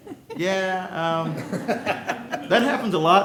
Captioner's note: laughter